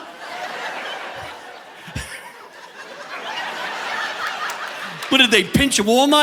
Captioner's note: audience laughing; laughs